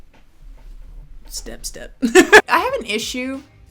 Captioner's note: chuckling